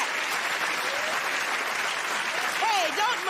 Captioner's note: cheers and applause